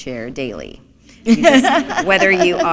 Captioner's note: laughter